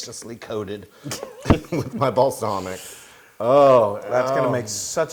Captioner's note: laugh